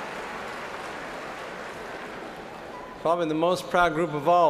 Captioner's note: applause